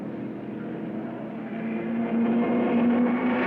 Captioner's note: car revving